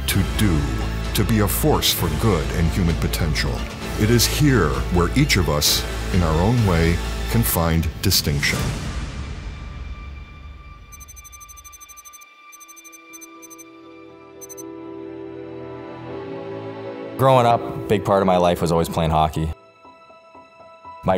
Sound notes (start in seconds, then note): 10.9 electronic beeping; 12.5 inspirational instrumental music